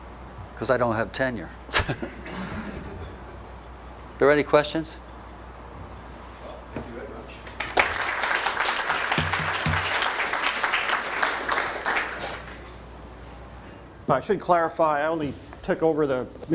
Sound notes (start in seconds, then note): 7.5 audience applause